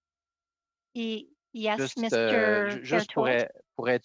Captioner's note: speaking in French